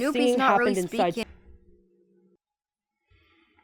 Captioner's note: sound abruptly cuts off